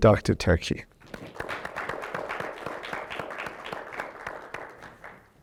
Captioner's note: audience applauds